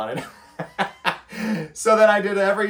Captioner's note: laughs